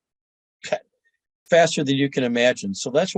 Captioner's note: laughing